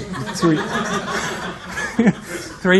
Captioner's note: laughter